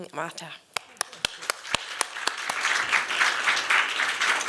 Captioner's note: applause